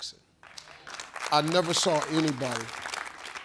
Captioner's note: audience applauding